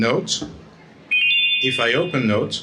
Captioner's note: computer chiming